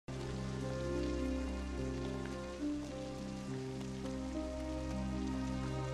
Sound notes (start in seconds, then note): 0.0 rain falling; 0.0 somber music